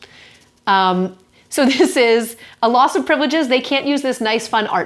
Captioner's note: chuckles